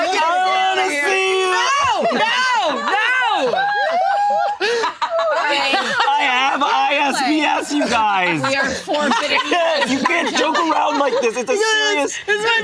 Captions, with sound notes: - No, no, no! (group laughing) - I have ISBS, you guys. You can't joke around like this, it's a serious-